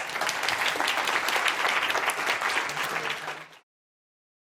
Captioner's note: audience applause